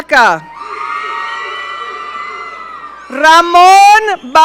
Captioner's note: audience cheering